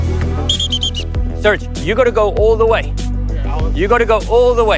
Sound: whistle

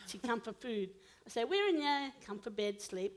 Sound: foreign language

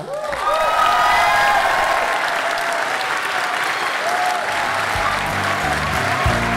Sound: people cheering

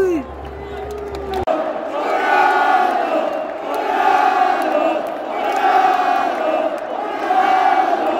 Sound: clap

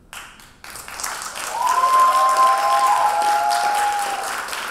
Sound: audience applauding

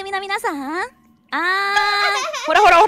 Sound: laughs

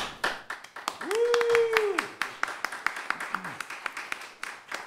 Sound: applause

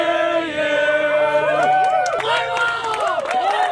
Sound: all cheering

